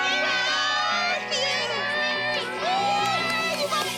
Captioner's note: yelling